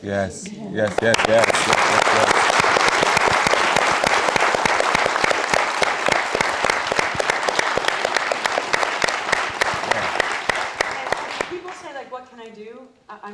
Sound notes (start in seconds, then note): 3.1 audience applauding